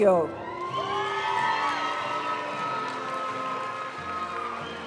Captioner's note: audience cheering and applauding; graduation music